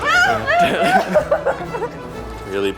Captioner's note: laughing